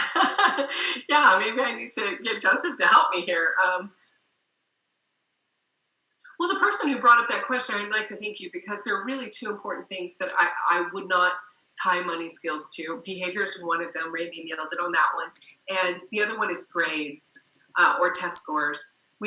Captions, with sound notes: (laughs) Yeah, maybe I need to get Joseph to help me here. Well the person who brought up that question, I'd like to thank you because they're really two important things that I would not tie money skills to. Behavior is one of them, (murmurs) on that one. And the other one is grades or test scores.